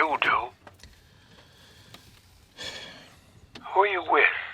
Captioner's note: sighs